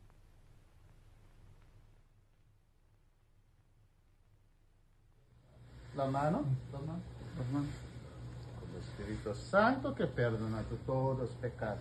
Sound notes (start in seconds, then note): 6.1 priest speaking in foreign language